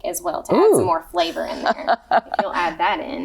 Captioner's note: laughs